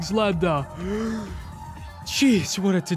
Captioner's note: gasps for air